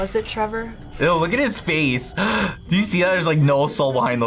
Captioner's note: gasps